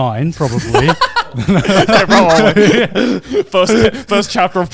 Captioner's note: everyone laughing